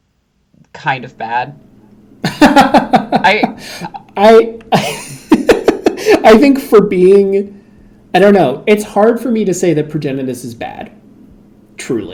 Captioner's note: laughs